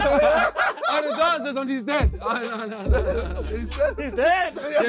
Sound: laughing

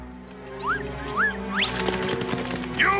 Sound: slide whistles

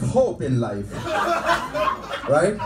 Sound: audience laughing

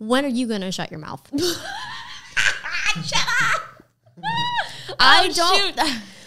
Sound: laughing

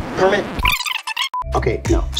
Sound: tape rewind screeching

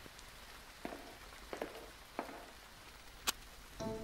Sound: footsteps

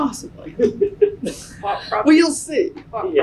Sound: laughs

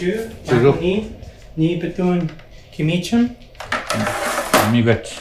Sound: speaking foreign language

